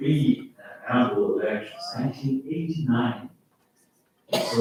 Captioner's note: faintly speaking